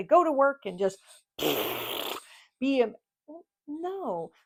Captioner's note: blows raspberry